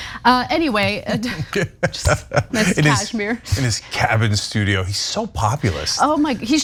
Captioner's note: laugh